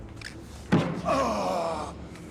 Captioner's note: groans